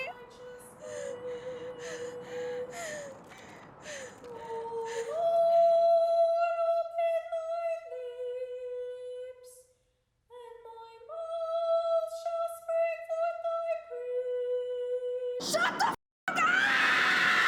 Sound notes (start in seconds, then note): 0.8 Abby pants; 4.6 singing continues